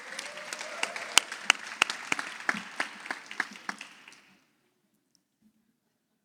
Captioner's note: audience applauds